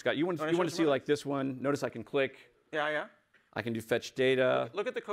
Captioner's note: laughter